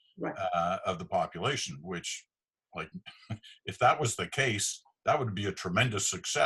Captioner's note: laughing